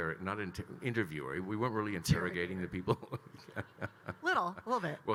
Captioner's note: laughs